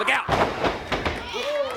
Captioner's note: crowd chatter